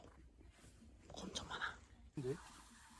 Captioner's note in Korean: 속닥속닥